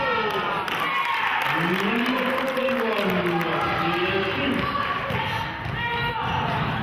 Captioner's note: cheering and clapping